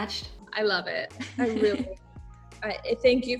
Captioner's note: chuckling